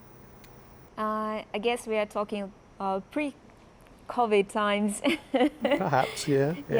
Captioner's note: laughs